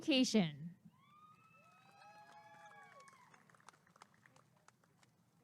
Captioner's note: applause and cheering